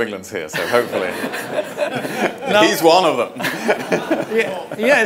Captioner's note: everyone laughing